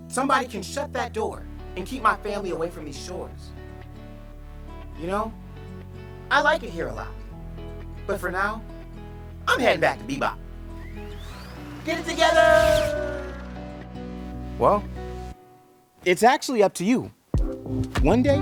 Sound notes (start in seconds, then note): 10.7 whooshing